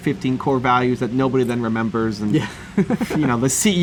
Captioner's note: laughs